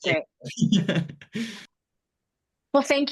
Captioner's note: laughs